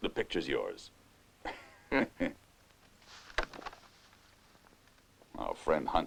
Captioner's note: laughing